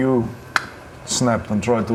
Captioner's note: snap